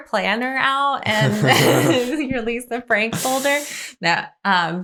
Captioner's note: chuckles